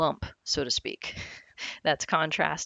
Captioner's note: giggles